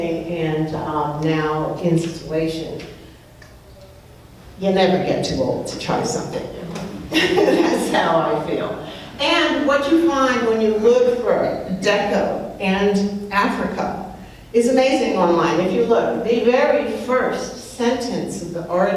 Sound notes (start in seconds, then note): 6.6 laughs